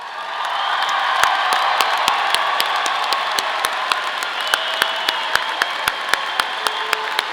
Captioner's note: audience cheering; audience applauding